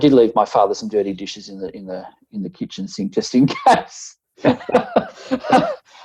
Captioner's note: laughing